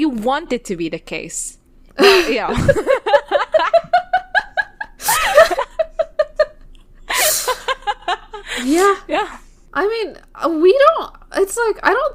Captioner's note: both laughing